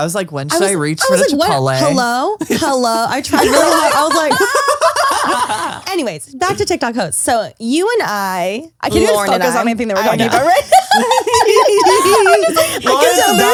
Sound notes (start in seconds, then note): 4.9 laugh; 10.3 all laugh